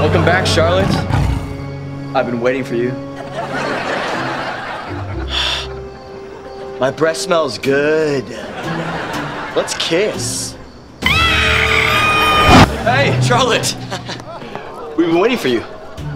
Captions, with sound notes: Welcome back, Charlotte, I've been waiting for you. My breath smells good. Let's kiss. [screaming] Hey, Charlotte! We've been waiting for you.